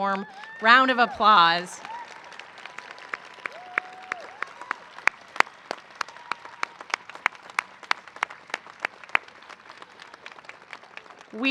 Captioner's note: cheering and applause